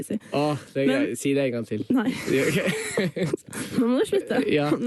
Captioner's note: laughs